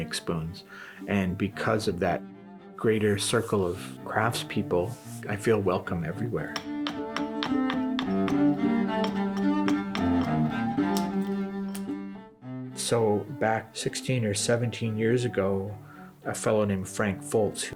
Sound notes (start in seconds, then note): 6.5 axe thumps, violin music